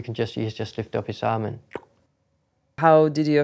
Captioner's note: tongue clicks